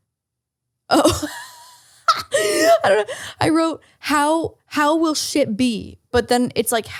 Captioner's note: laughs